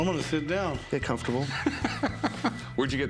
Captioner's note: laughs